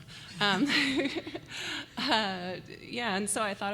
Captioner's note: laughter